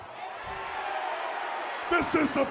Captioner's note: audience cheers